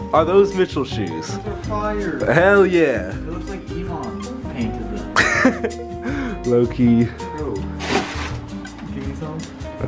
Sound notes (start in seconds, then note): 5.1 laughing